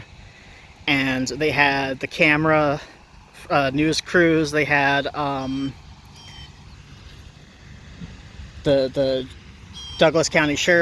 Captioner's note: blue jay calls